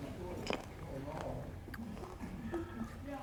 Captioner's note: crunching